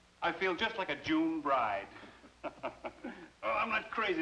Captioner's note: laughs